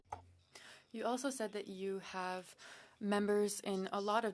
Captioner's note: speaking in French